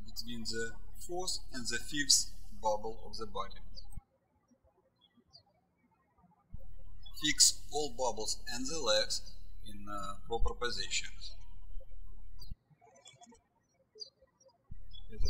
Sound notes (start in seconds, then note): 6.5 birds chirping